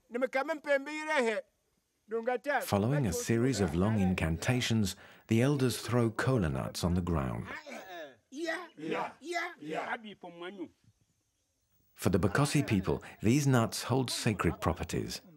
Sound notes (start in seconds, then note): 8.3 Bakossi spoken audio